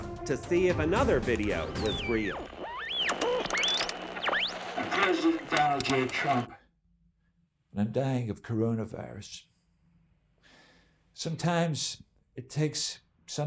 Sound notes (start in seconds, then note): 1.9 buzzing